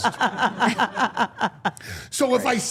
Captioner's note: all laughing